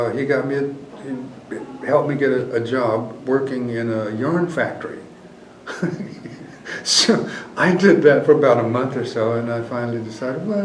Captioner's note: laughs